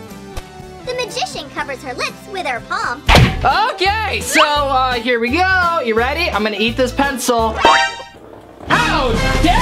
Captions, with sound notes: the magician covers her lips with her palm. - Okay, so here we go, you ready? I'm gonna eat this pencil. (loud alarm) How dare you?